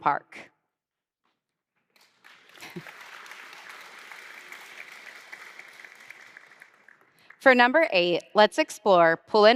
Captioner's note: applause